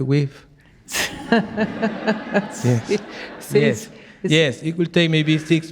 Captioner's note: audience laughing